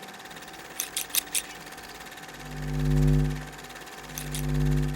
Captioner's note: projector clicking; scissors snipping